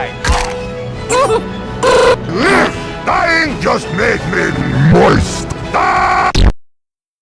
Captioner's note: laughs